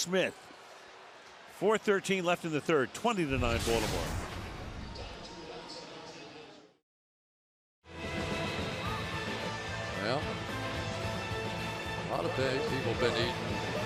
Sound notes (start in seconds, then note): 4.6 swoosh